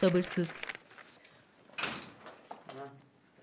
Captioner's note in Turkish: Kapı açılma sesi